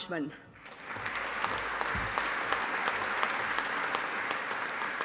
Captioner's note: audience applauding